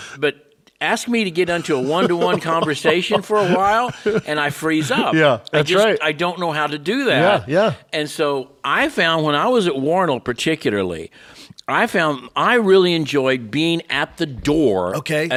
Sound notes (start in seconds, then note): 4.5 cohost laughing